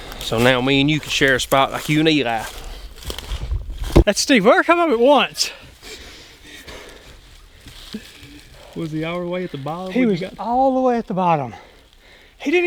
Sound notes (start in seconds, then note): 5.5 breathes heavily